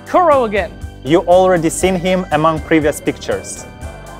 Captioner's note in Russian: Голос за кадром